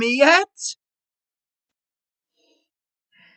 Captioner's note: deep breath